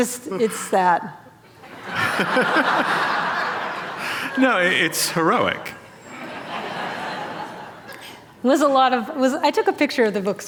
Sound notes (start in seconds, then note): 1.6 laughter; 5.7 laughter